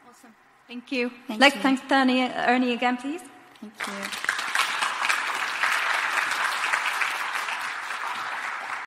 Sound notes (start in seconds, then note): 3.8 audience applauds